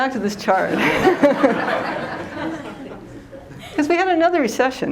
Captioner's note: laughter